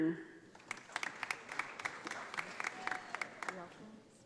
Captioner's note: audience applauding